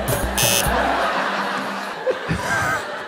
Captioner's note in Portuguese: campainha